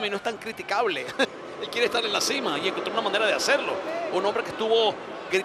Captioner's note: laugh